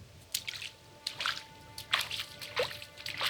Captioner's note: water splashing; tense music